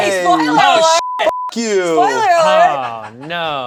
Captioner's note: beeps; upbeat music